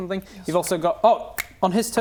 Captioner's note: snap